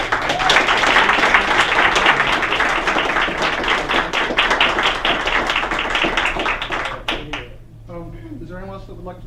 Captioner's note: applause